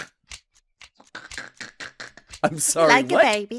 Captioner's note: laughter